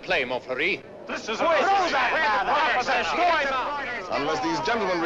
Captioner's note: shouting criticisms